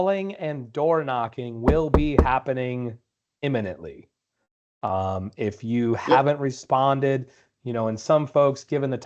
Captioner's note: knocking on door x3